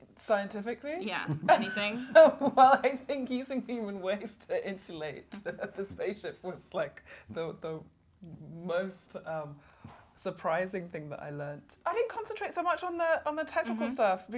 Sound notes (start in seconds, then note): 1.2 both laughing